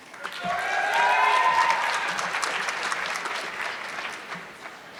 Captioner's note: audience clapping